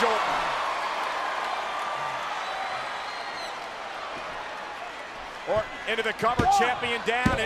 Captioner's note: applause